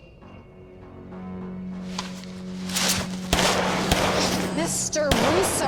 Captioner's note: suspenseful music continues; gun firing